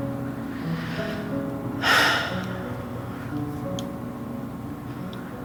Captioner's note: sighs